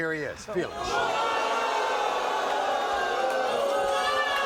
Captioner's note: booing